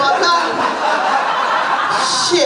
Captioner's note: laughter